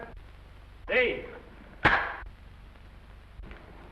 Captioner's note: clapboard snaps